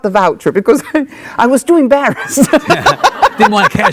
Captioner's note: laughs